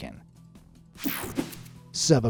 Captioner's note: screen buzzes and whooshes